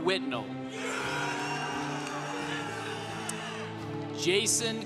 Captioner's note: congregation cheering